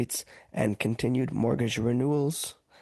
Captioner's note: speaking French